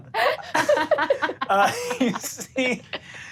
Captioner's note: all laugh